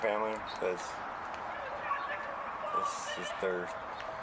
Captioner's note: kids yelling in background